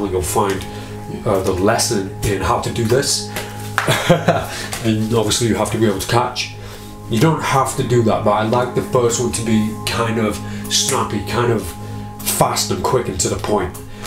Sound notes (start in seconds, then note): 3.8 chuckling; 11.3 snaps fingers